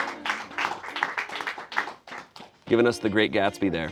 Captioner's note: friends clap